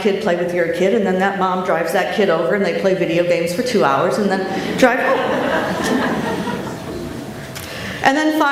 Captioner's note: laughter